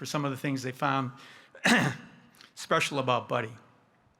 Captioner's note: clearing his throat